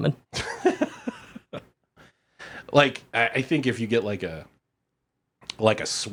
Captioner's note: laughs